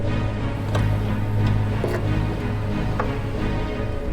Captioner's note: car trunk clicks